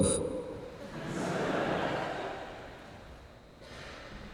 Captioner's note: خنده